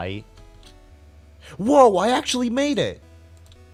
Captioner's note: gasp